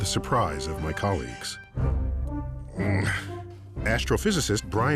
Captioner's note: grunts